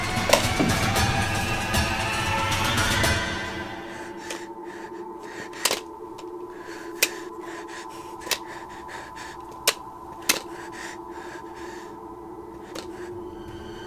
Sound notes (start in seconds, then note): 1.1 dramatic music; 4.8 panicked breathing